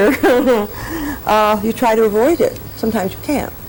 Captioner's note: laughs